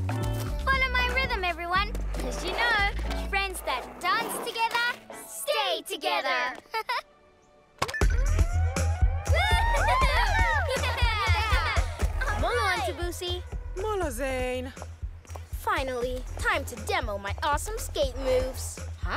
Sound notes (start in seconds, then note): 7.5 lively music; 9.2 cheering and laughter